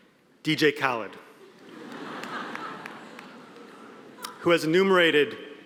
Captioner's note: audience laughing